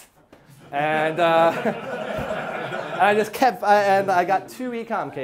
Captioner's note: class laughing